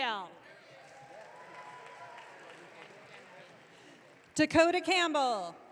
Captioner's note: audience cheering